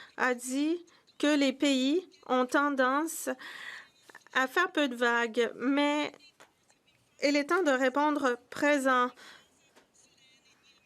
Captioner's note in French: voix de l'interprète